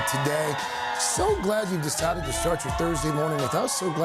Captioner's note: cheers and applause